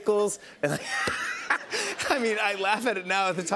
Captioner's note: laughs